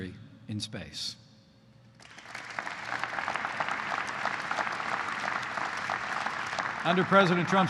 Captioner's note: applause